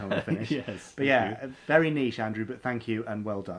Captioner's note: laughs